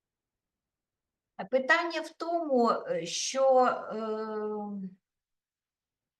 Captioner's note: speaking Ukrainian